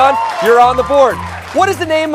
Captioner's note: applause